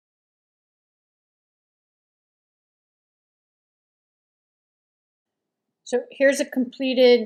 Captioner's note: silence during fast forward painting